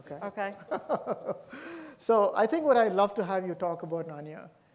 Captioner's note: laughs